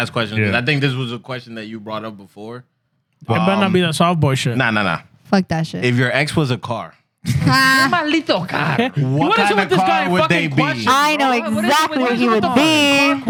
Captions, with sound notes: Last question. I think this was a question that you brought up before. It better not be a softball shit. Nah, nah, nah. Fuck that shit. If your ex was a car. (Speaking Spanish) I know exactly what he would be.